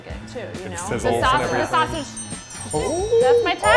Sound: bell chiming

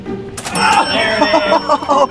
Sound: cash register dinging

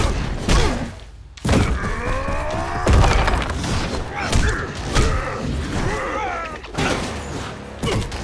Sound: grunting

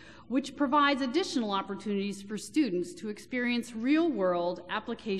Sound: none

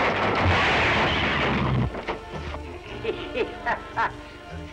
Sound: laughter

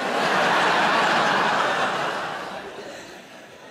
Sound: audience laughs

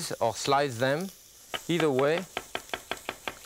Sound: knife chopping

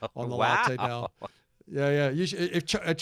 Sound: laughs happily

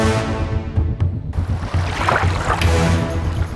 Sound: water gushing

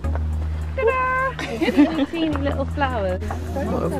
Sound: all laugh

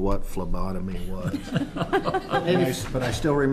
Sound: laughter

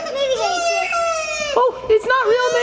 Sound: cries

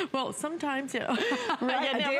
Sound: laughter

